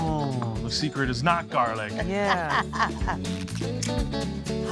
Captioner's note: laughing